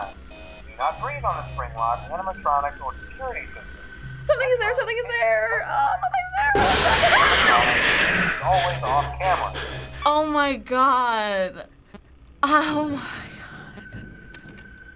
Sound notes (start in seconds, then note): 5.6 shrilly; 6.8 screams; 7.1 in game: growl; 9.4 in game: frantic panting; 12.3 whispering